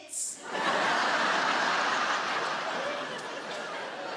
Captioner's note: audience laughing